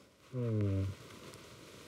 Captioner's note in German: Stöhnen